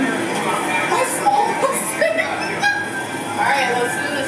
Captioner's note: laughing